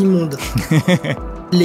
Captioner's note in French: rires